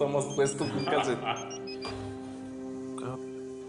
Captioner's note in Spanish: Suena el bíper